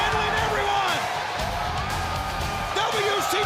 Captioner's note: audience cheers